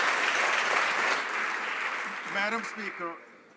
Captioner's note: some Applause